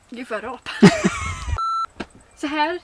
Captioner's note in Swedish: Pip